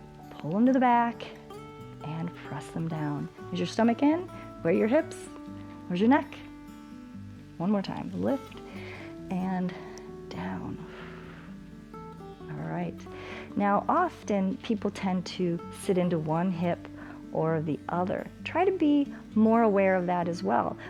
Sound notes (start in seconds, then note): 8.6 exhales